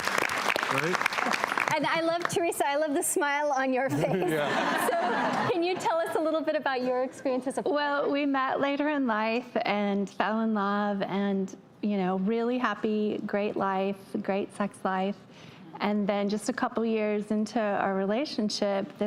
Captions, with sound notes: - Teresa, I love the smile on your face. (everyone laughs) Can you tell us a little bit about your experience as a partner? - Well, we met later in life and fell in love and really happy, great life, great sex life, and then just a couple of years into our relationship,